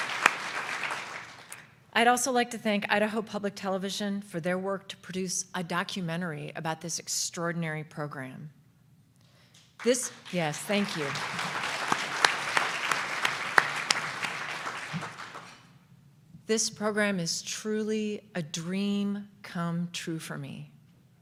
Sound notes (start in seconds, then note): 9.8 audience applause